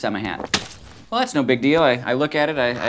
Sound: splatting

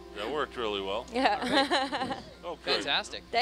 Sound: laughs

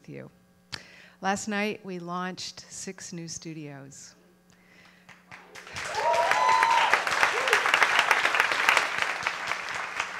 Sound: applause

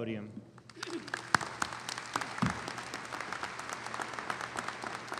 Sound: audience applauding

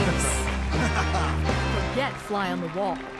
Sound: laughing

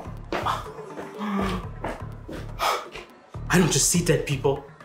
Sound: Gerard gasps

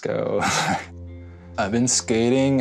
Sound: laughs

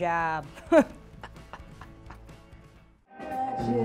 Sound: laughing

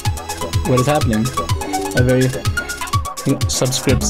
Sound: computer chimes

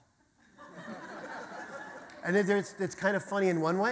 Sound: audience laughter

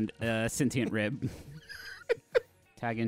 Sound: laughing

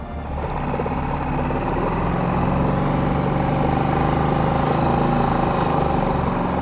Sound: dramatic music; boat spluttering

